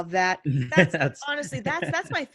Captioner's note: laughing; chuckles